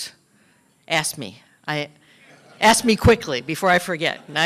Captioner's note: laughter